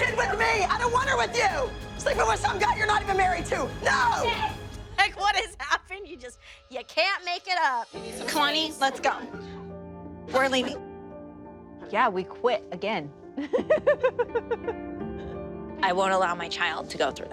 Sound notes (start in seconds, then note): 13.4 laughing